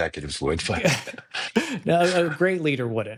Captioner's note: both laughing